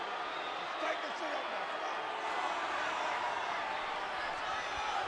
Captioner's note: wrestler mumbling